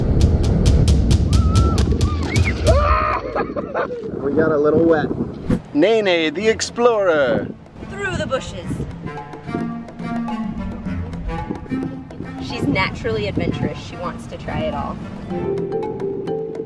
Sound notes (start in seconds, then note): 1.2 kids screaming; 2.6 yells and laughs; 9.3 playful music